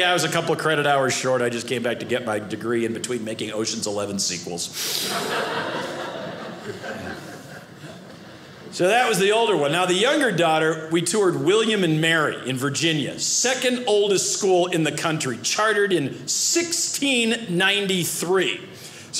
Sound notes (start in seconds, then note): 4.8 audience laughing